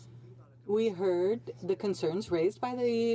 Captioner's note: speaking French